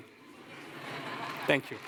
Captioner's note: laughter